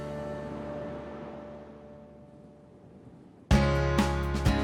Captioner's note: wind blowing; upbeat music